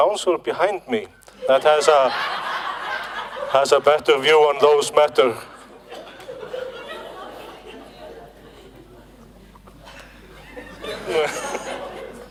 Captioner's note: laughter